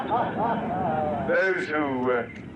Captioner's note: reporters laugh